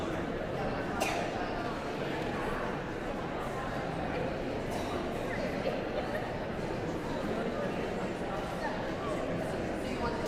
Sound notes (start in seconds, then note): 2.7 audience chattering continues